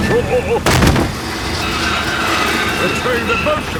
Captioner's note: thud